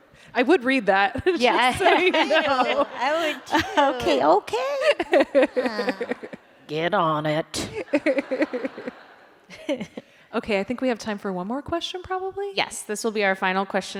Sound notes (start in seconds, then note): 7.7 laughter